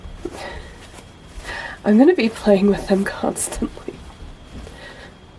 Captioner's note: laughs